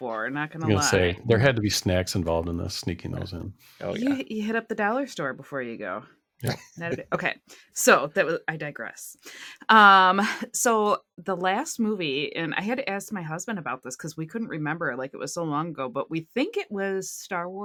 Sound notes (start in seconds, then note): 6.4 laughter